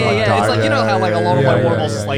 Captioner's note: guys humming in agreement